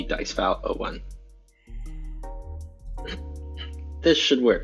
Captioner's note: whispering